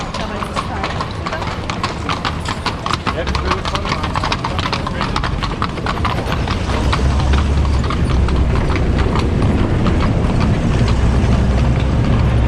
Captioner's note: hooves of passing horses